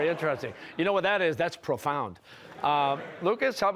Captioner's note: laughter